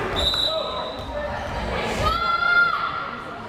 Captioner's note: whistle blares